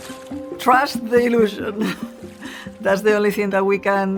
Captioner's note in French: rires